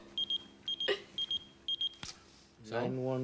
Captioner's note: pager beeping